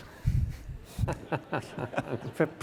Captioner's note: all laugh